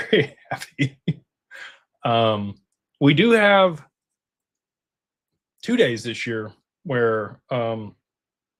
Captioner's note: laughter